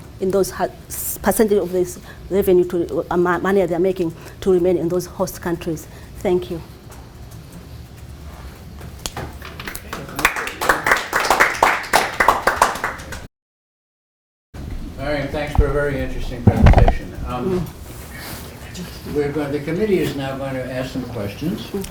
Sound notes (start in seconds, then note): 9.6 applause